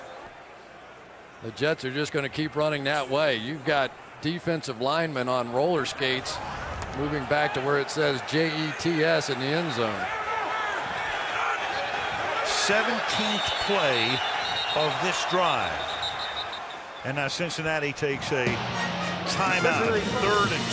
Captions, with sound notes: 78 is eligible. --the Jets are just going to keep running that way. You've got defensive linemen on roller skates moving back to where it says J-E-T-S in the end zone. [shouting] 17th play of this drive. [whistle blowing] And now Cincinnati takes a timeout.